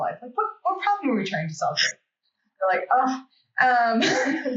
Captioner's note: laughs